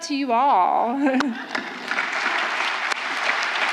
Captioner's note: applause